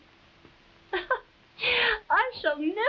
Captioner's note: Marquesa chuckles